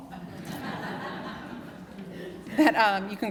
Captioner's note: laughter